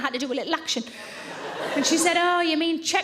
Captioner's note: audience laughing